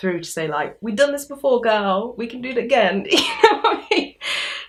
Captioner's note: laughs